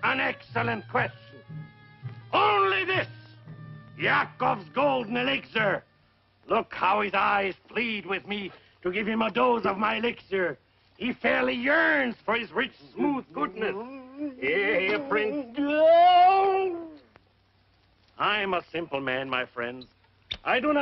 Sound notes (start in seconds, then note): 15.5 yelping